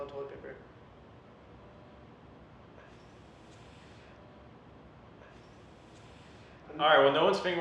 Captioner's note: silence